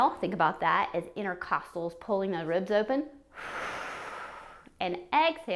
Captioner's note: exhales